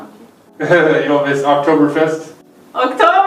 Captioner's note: laughs